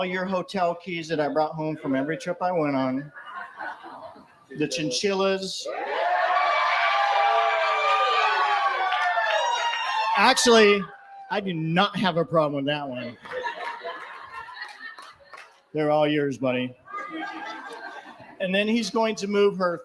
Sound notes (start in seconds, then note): 5.6 laughter & cheering